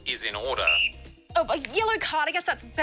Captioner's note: whistle blows